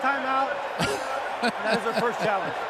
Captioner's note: laughs